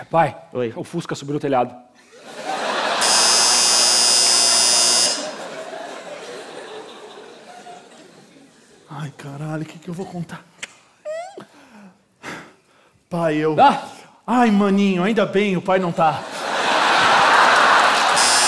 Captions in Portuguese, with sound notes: - Pai! - Oi. O fusca subiu no telhado. [campainha] Ai, caralho, o que eu vou contar? Pai, eu... Ah, maninho, ainda bem, o pai não tá!